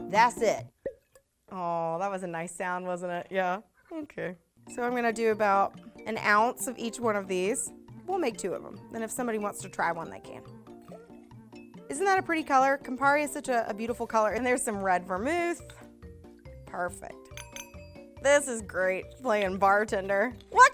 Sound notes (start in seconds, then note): 0.8 cork popping